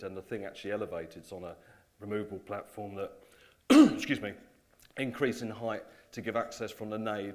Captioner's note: coughs